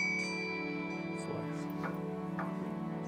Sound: bell chimes

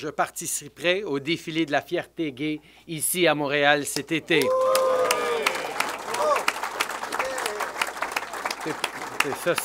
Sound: applause

